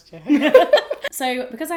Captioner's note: laughter